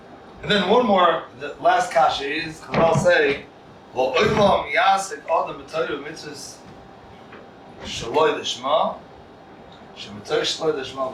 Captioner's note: Hebrew